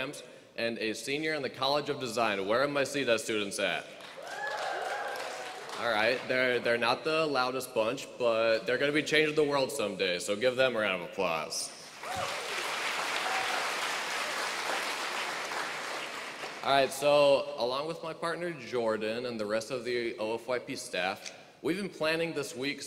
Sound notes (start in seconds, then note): 4.1 cheering; 11.9 applause